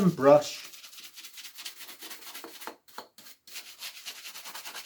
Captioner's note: brush scratching